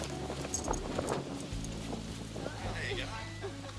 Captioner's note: both laugh